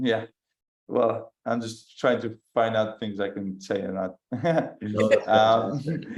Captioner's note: laughs